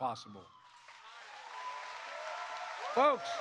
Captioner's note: applause